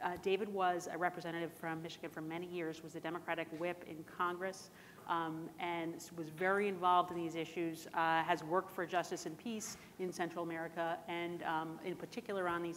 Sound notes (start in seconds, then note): none